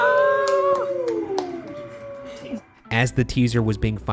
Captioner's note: team cheering and applauding